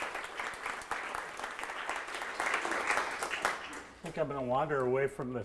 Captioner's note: audience applauding